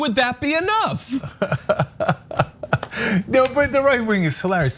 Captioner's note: laugh